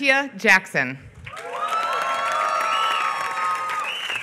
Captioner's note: applause